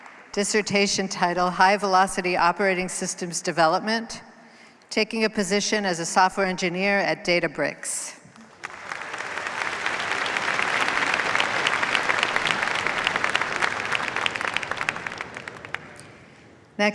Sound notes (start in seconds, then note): 8.3 applause